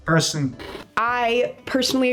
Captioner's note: TV noise